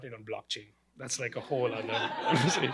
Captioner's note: laughter